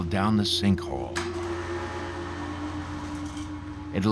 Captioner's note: machine whirring